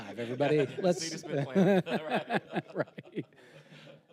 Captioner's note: panelists laughing; laughing